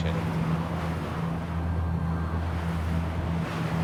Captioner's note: wind blowing